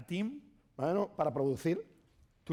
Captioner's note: speaking spanish